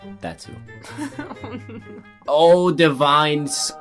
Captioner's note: laughs